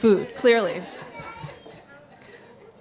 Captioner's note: laughter